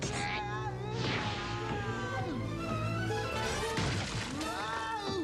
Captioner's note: screaming